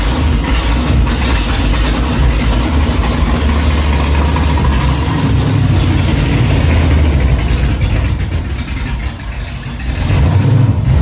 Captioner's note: engine Running